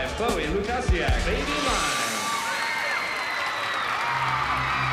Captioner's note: cheering